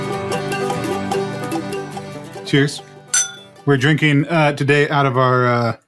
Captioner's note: clink